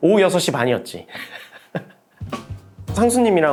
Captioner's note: laughter